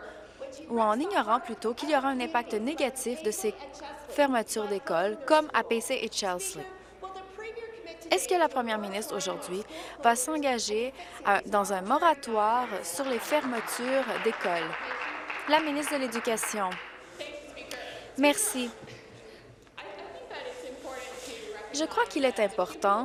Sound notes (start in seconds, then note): 16.7 applause